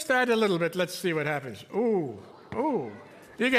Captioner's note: audience oohing